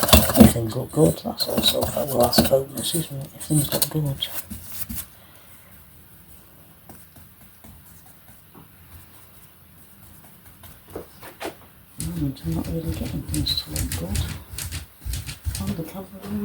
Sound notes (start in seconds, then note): 2.2 lavalier mic dropped out here